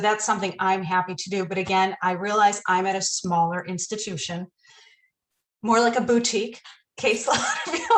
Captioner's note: laughter